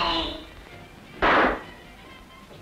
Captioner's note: gunshot